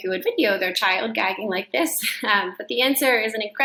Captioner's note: chuckles